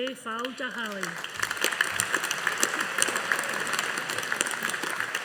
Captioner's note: audience applauding